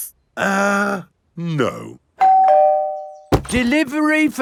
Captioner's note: doorbell rings